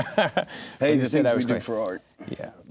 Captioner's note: laughing